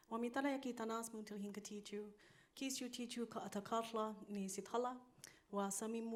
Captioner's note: speaking in foreign language; continues speaking in foreign language